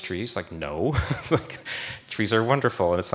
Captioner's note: laughs